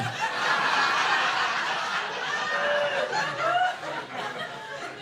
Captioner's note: audience laughing